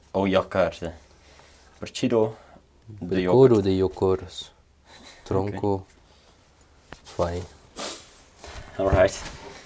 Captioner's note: reading in foreign language